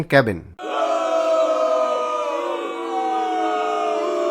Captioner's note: crowd booing